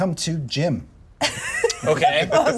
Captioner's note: laughs